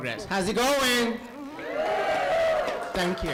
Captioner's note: cheering